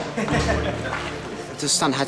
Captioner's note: man chuckles